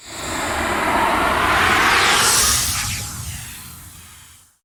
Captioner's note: title whooshing